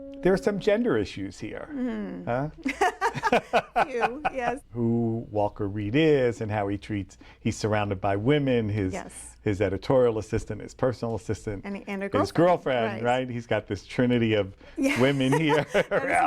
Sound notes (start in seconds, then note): 2.6 laughter